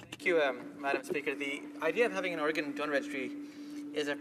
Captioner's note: speaking in French